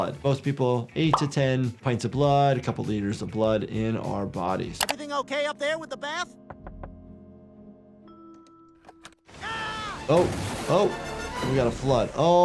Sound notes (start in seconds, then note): 6.5 knocking on door; 9.3 Quagmire screams